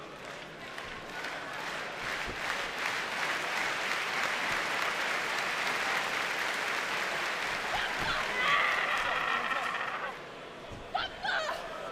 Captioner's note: clapping